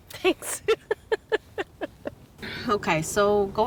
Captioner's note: laughs